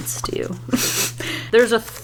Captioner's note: chuckles